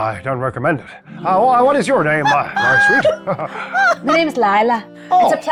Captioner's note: laughs